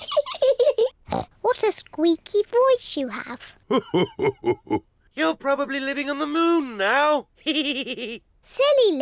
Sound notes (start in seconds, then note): 0.1 laughs; 8.1 chuckles